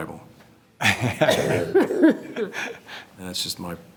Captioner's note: laughter